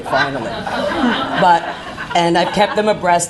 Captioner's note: laughing